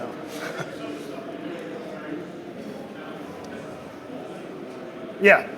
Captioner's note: crowd murmuring drowns out audience member